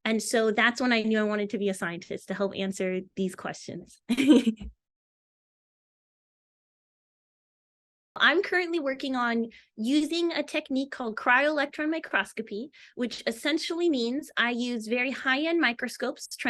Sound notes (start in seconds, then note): 4.1 chuckles